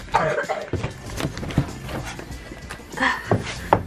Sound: coughing

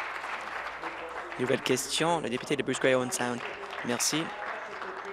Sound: applause

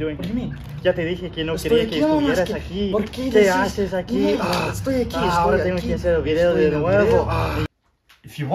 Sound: arguing in Spanish

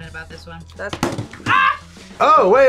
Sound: screams

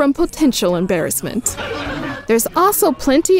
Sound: crowd laughs

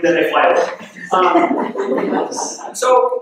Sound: laughing

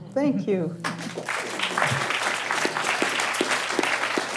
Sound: applause

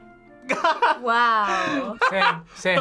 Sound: laughs

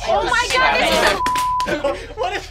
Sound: beep; slapping

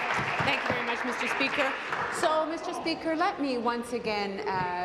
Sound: applause

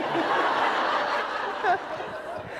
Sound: laughter

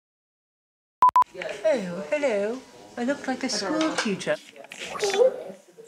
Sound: English accent

